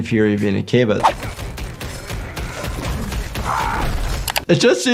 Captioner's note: punches thud; man grunts; keys clack